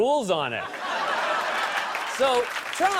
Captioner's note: laughter and applause